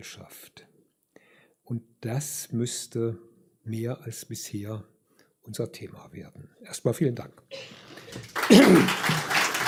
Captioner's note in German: applaus; räuspern